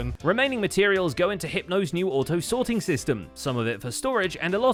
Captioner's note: none